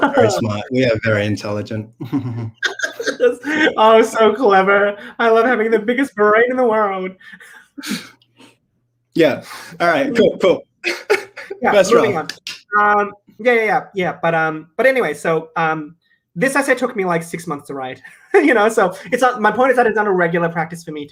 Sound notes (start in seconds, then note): 2.0 both chuckle; 7.8 chuckles; 12.2 claps